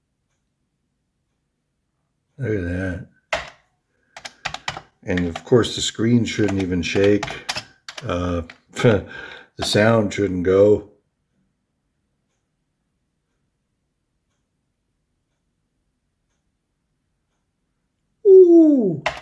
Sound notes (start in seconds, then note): 8.7 pfft